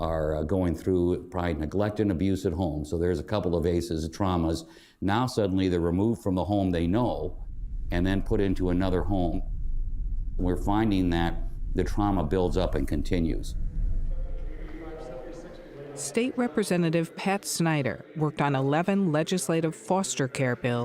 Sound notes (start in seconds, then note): 14.3 conversation echoes off ceiling